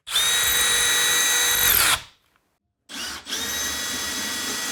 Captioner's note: tool whirring